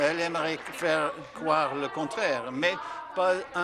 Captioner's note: applause